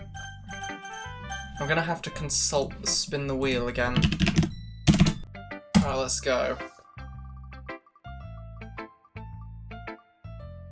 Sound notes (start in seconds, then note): 4.8 loud keyboard asmr; 5.6 atomic bomb click